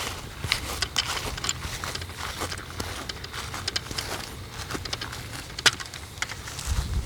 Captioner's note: tripod Rustling; footsteps